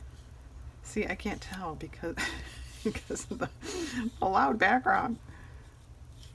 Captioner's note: laughs